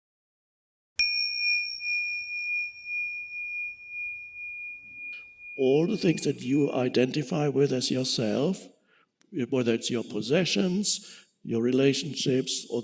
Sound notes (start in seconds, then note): 1.0 dinging